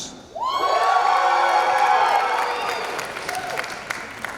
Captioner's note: cheering